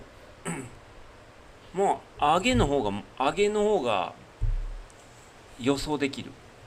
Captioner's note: clears throat